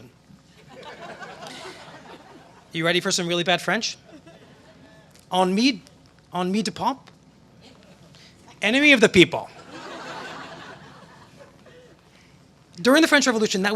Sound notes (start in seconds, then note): 0.5 laughter; 5.0 speaking french; 9.5 laughter